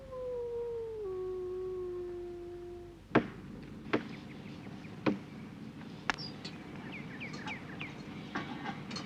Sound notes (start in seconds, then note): 3.1 hammering